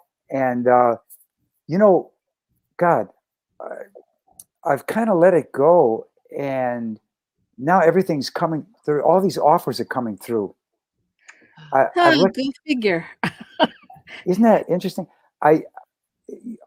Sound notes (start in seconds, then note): 13.2 laughter